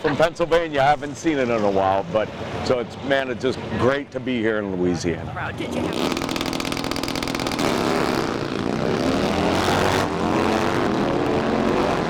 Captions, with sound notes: From Pennsylvania, I haven't seen it in a while but so, man, it's just great to be here in Louisiana. (motorcycle engines revving)